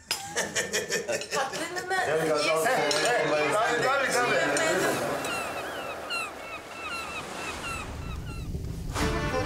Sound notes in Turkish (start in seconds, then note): 0.2 Gülüyor; 5.0 Martı sesleri